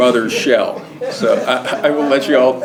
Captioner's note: laugh